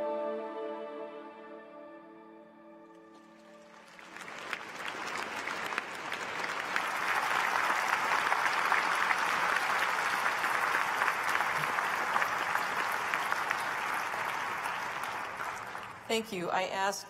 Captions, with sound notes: say, and without them, I wouldn't be here. [ Applause ]